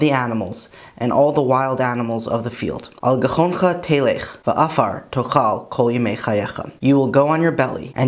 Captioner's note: Hebrew